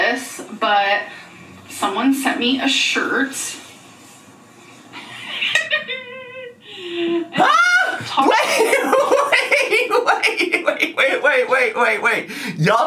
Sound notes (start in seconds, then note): 4.0 laughs; 7.4 laughs